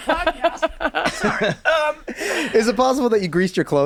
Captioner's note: laughing